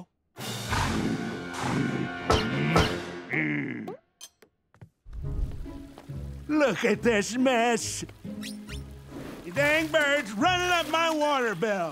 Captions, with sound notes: [panting] [tinging, groaning] Look at this mess! Your dang bird's running up my water bill!